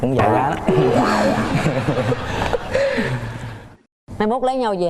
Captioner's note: laughing